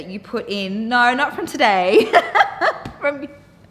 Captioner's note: laughing